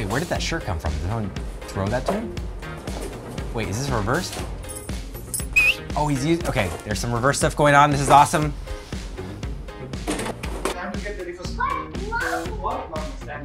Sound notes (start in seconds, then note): 5.5 whistles; 10.4 upbeat music